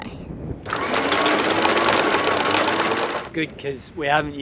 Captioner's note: gears whirring